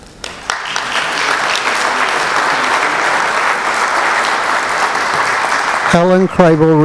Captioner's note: applause